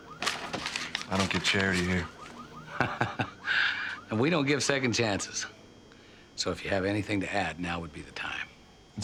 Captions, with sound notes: I don't give charity here. (Nash laughs) - And we don't give second chances. So if you have anything to add, now would be the time.